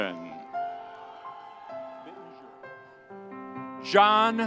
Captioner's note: audience cheering